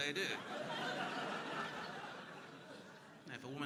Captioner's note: crowd laughing